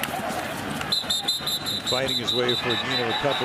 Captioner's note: whistle blowing